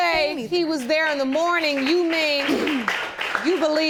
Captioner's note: applause